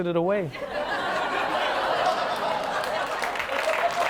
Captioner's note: laughter and applause